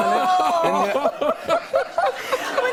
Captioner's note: laughter